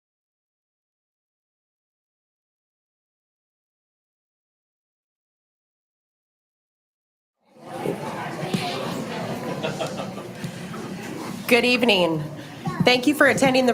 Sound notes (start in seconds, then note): 7.4 participants chattering